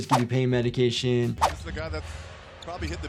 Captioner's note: audio whooshes